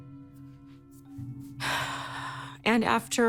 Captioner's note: exhales sharply